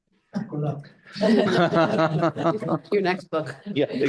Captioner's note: all laughing